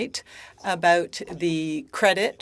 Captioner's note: speaking French